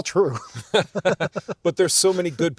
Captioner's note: both laughing